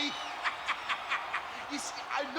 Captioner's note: laugh